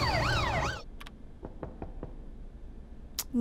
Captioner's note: Knock on door